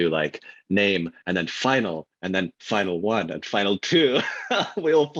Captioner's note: laughs